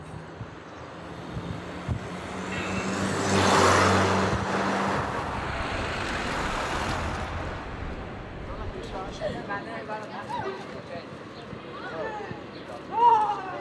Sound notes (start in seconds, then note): 2.9 car noise; 10.1 indistinct chatter